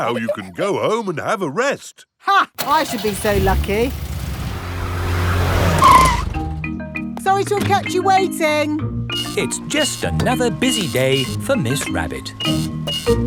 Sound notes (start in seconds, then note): 2.6 car engine starts; 5.7 brakes squeal